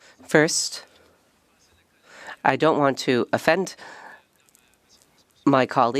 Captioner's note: speaking French